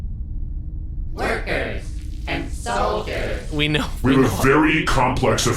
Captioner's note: half-laughing